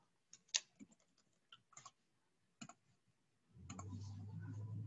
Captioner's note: mouse tapping